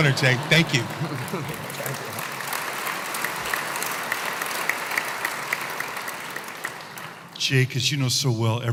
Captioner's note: applause